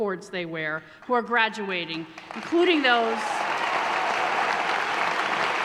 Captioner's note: applause